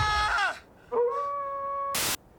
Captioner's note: animal howls